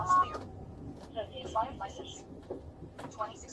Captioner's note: radio chatter